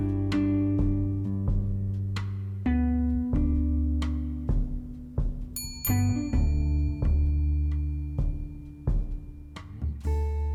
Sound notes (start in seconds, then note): 5.5 bell dings